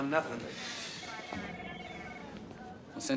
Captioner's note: phone ringing